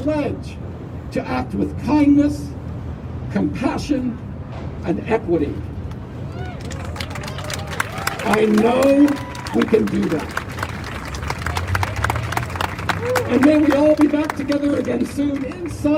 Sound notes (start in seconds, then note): 6.6 crowd cheers; 12.0 applause